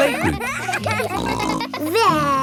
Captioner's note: kids giggling